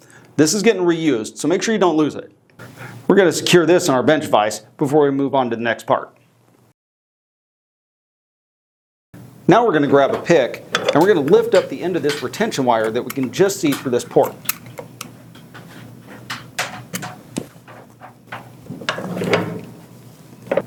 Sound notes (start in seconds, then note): 15.6 metal clicking; 17.4 metal moving